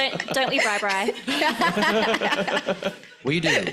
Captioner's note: laughs